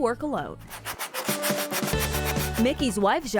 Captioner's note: file sanding